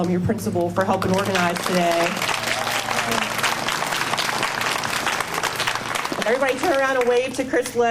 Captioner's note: applause